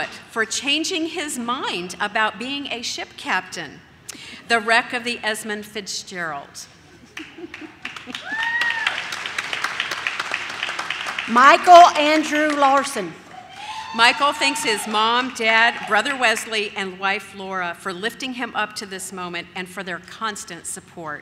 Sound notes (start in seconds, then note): 7.1 announcer laughs; 8.1 audience cheers; 13.3 audience cheers